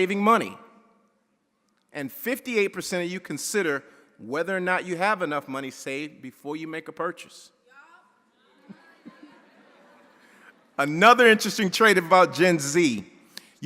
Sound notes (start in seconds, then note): 8.4 audience chattering